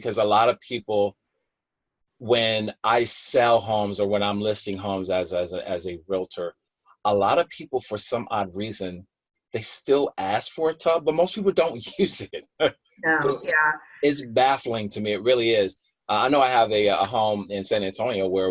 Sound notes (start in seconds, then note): 10.7 laughs